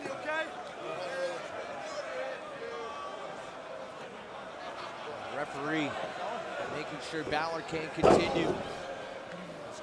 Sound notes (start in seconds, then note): 2.5 crowd chatter